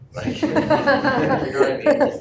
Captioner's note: laughter